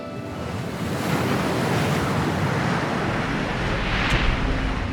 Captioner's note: upbeat music; waves crashing